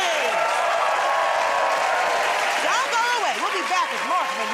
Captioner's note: cheers and applause